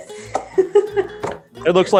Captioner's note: giggles